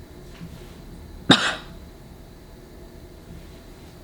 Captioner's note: coughing